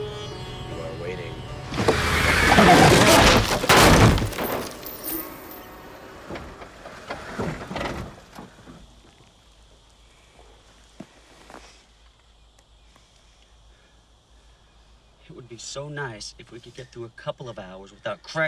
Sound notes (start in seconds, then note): 1.7 crashes